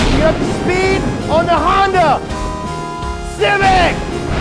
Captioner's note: lightning cracks; beep; lightning cracks